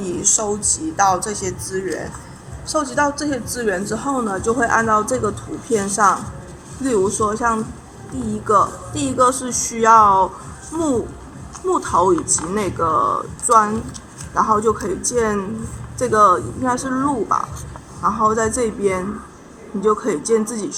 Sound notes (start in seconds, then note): 0.1 explaining in Chinese